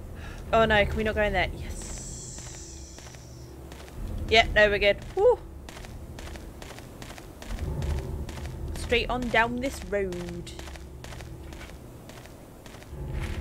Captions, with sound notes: Oh no can we not going there. Yussssssssss! Yup. No we're good! Phew! [In a west country accent] Straight on down this road.